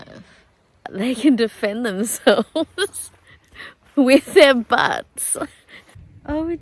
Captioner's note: laughing